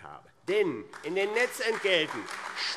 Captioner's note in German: Beifall AfD